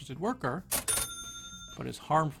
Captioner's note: cash register sound